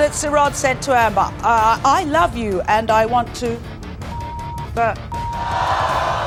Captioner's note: beeps; audience boos